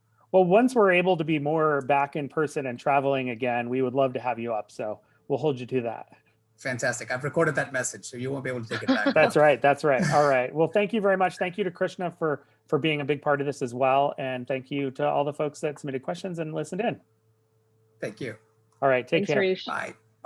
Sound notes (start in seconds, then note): 9.8 laughing